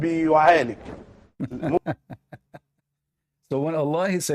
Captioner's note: Ketawa